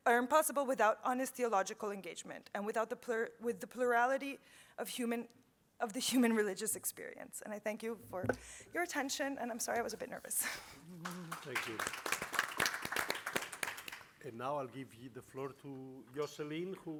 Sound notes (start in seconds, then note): 10.5 chuckling; 10.9 audience applauding